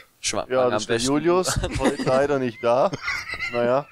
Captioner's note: laughter